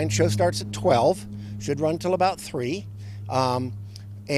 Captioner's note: sound of plane